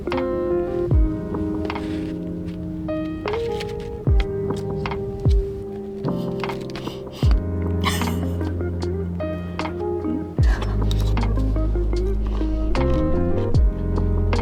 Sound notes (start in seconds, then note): 13.0 laughs